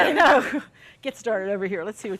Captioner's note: laughs